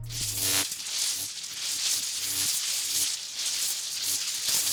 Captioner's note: dramatic music continues; electricity sizzles